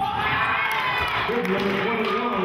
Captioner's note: cheering